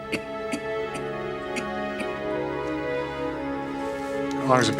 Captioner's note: coughing